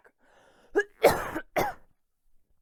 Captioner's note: coughing